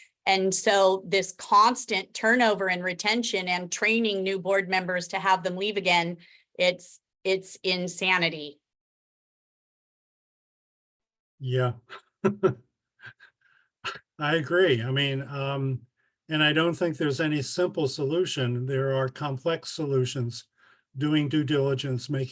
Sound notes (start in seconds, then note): 11.8 chuckles